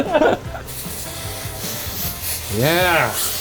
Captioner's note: both laughing; steam hissing